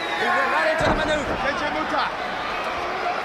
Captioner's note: crowd chatter